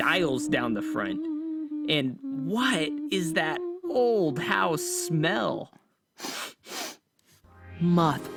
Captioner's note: sniff sniff